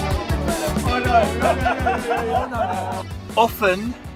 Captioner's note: laughter